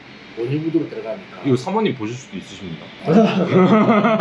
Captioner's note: laughing